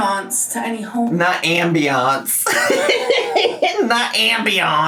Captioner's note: laughing